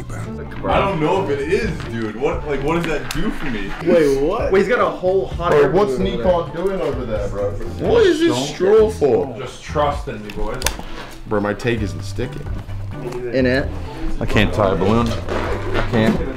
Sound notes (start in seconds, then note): none